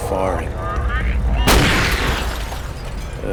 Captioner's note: gunshot